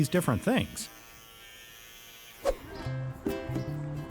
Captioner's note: razor buzzing; gentle music